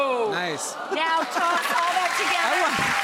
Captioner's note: crowed cheering